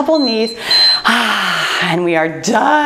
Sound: timer beeps

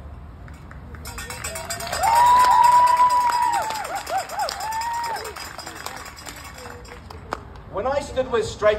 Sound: cheers

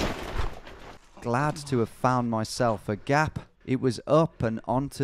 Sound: voiceover

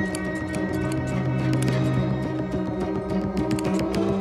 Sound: snipping

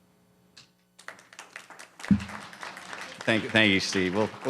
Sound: applause

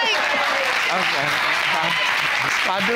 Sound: audience applauding

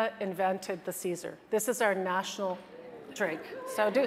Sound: audience chattering

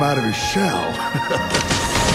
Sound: awkward laugh

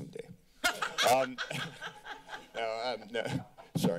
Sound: laughter

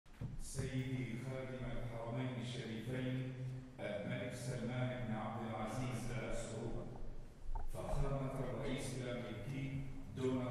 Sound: Arabic

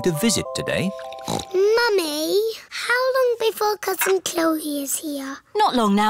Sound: snorts

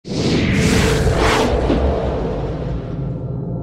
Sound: air whooshing

